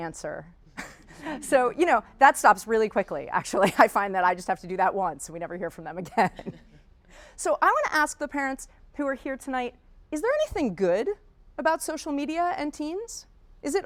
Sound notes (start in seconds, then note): 0.3 audience laughing; 6.7 laughing